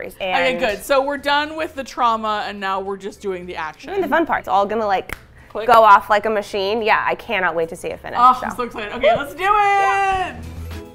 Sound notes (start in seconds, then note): 5.0 snaps